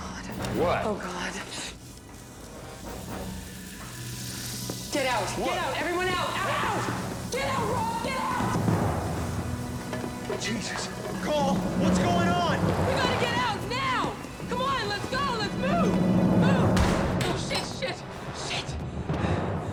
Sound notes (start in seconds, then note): 3.2 balls sizzling; 16.7 door thud